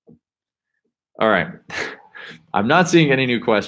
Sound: laughs

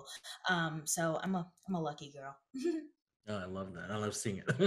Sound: giggles; laughs

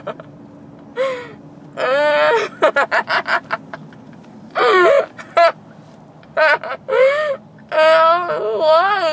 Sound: laughing

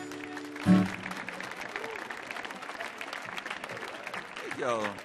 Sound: audience applauding

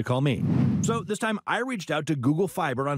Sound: swoosh

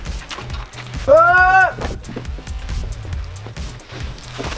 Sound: scream

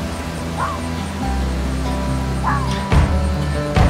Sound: fox barking

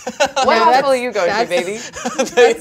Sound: laughs

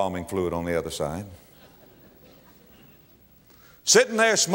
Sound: audience laugher

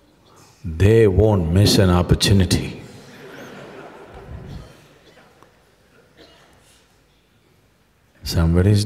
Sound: laughter

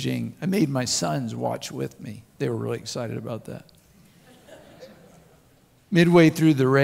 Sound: crowd Laughs

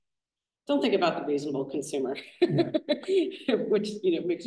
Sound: laughs

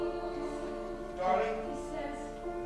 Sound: MARVIN, spoken

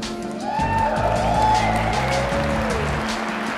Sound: whoops and cheers

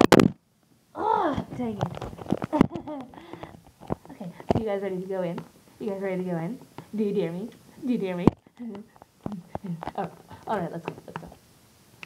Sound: nervous laugh

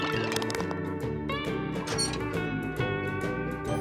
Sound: squeaky window

